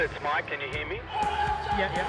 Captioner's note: announcer over loudspeaker